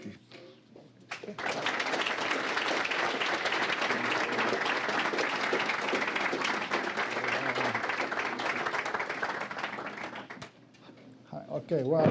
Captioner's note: applause